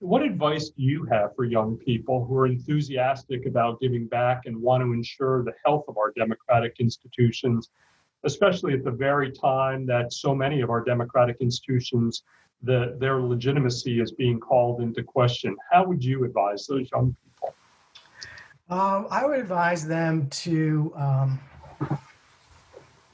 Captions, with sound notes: What advice do you have for young people who are enthusiastic about giving back and want to ensure the health of our democratic institutions, especially at the very time that so many of our democratic institutions, their legitimacy is being called into question. How would you advise (audio warps) people? - I would advise them to jump right in honestly.